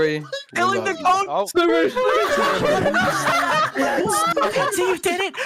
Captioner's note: hysterical laughter